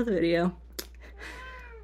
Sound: meow

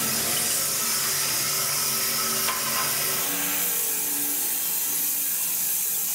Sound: saw blade continues humming

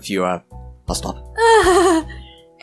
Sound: laughs

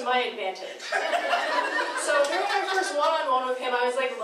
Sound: laughing

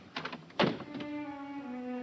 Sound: door closing; somber music

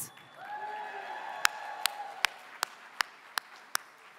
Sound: applause

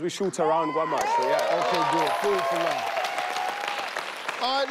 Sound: applause

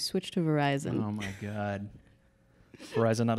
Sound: laughs

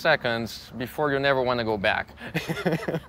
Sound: laughs

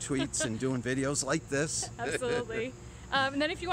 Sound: laughs

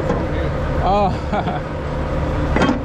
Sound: laughs

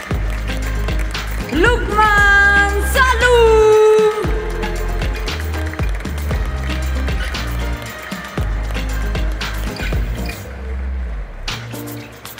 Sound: applause; applause

